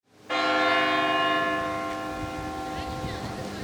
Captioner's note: church bell rings